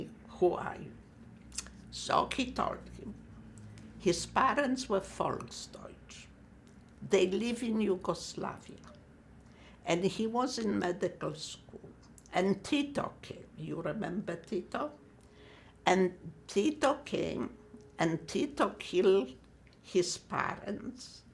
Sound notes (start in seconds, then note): 5.4 german